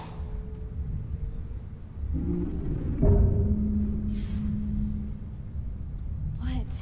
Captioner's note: growling noise